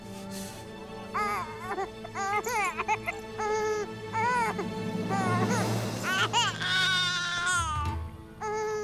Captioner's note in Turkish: Osman ağlama sesi